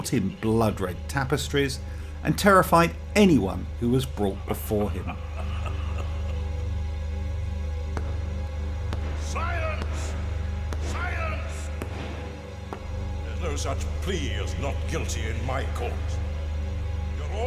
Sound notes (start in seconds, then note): 4.3 laughing; 8.9 gavel banging